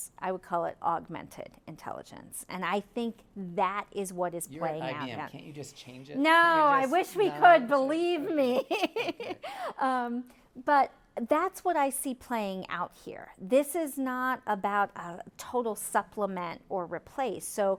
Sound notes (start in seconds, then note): 8.3 laughing